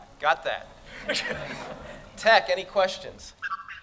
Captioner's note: laughter